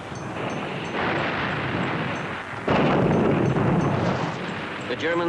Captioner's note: explosion booming